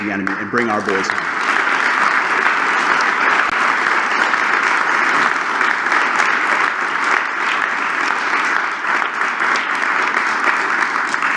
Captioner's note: applause